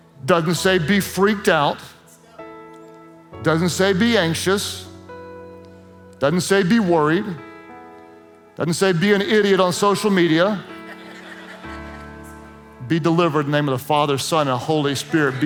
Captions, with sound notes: Doesn't say be freaked out, doesn't say be anxious, doesn't say be worried, doesn't say be an idiot on social media. (Congregation laughs) Be delivered in name of the father, son and Holy spirit.